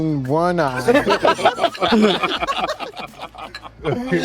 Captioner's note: all laughing